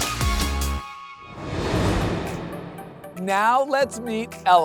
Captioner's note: graphics swoosh